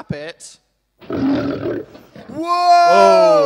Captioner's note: lion roar